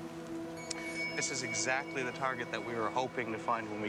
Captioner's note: voiceover